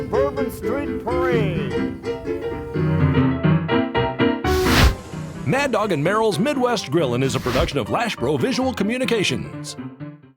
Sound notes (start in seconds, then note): 2.8 flames hissing; 2.8 upbeat ragtime piano music